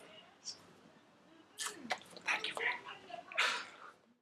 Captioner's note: whispers